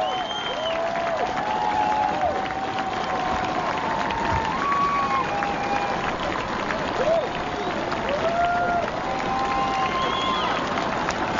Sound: applause

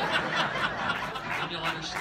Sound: laughter

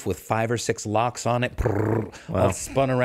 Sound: making drilling sound

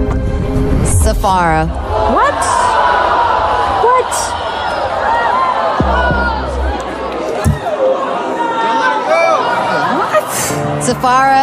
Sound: crowd gasping and groaning

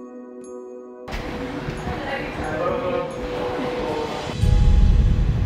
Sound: passengers chattering

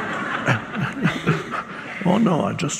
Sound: audience laughs; Eckhart laughs

